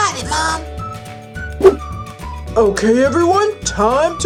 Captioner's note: whoosh